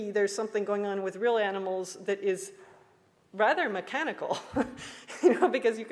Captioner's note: laughs